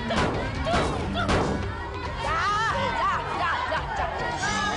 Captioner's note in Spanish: Golpes